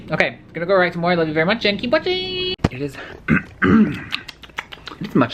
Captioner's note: clears thorat and makes a gross mouth noise